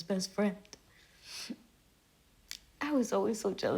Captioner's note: sniffles